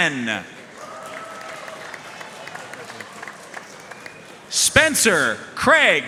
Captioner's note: audience cheering and applauding